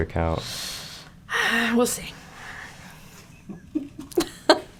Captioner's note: sighing; all chuckling